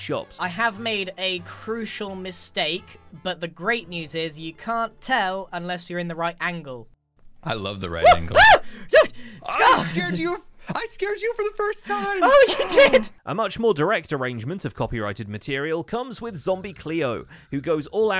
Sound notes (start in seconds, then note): 8.0 screams; 12.0 gasps